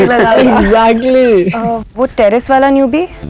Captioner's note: All laughing